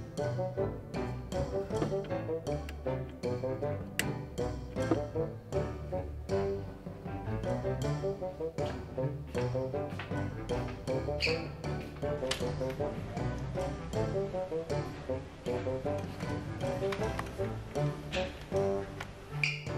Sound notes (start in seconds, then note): 4.1 clicking; 14.6 steps approaching